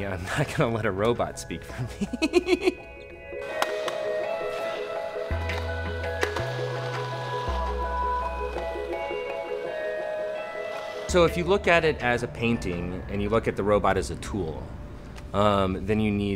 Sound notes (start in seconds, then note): 3.7 laughter